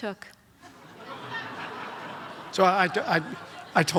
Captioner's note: audience laughs